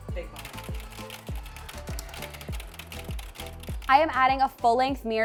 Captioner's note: taps keyboard